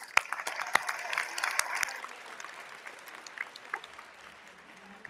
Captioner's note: audience applauding